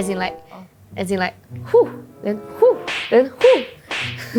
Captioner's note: some moving sound effects